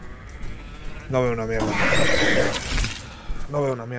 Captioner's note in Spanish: Gruñido